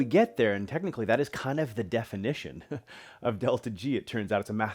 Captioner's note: chuckles